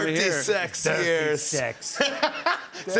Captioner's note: laughter